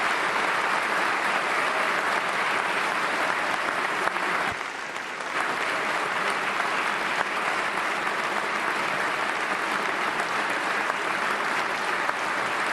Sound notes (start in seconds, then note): 0.0 applause